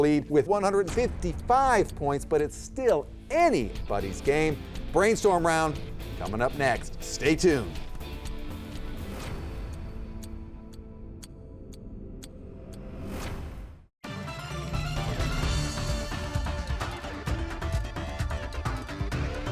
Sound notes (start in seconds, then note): 8.8 dramatic tone; 8.8 timer ticking; 14.0 upbeat music